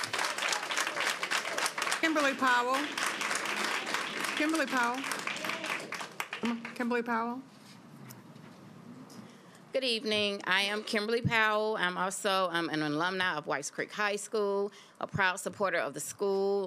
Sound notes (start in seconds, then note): 5.5 applause